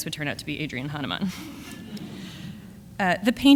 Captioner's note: audience laughs